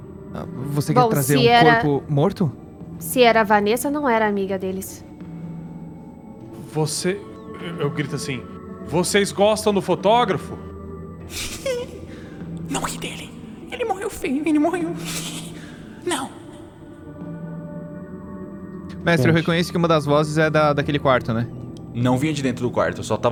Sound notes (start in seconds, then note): 11.3 laughs; 15.0 giggles